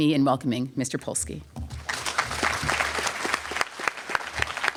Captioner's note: applause